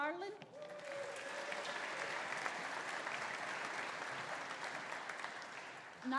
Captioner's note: audience cheering; audience applauding